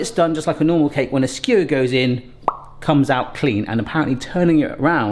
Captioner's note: imitates popping